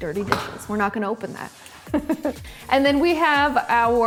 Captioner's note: laughs